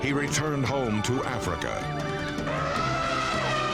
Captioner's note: elephant trumpeting